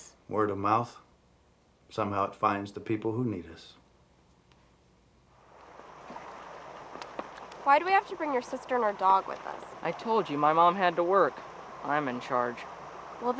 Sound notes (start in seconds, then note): 5.4 brook babbling